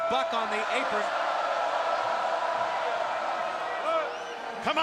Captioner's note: crowd cheering